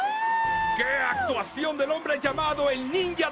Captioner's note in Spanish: gritos